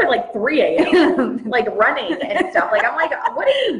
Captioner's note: laughs